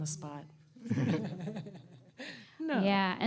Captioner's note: chuckling